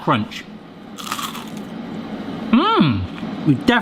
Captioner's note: onion ring crunching